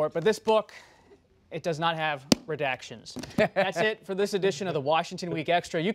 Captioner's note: laughter